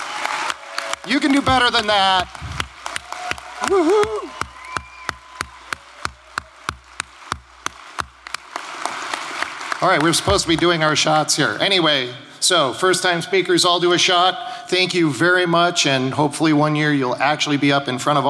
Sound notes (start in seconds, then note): 0.0 cheers and applause